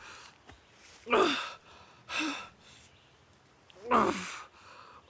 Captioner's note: Arawn groaning; Arawn breathing heavily